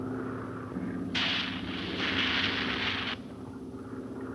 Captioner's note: fuse fizzing